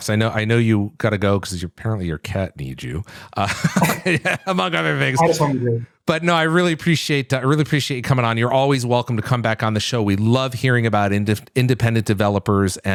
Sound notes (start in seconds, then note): 3.4 laughter